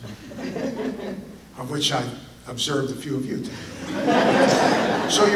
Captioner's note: audience laughter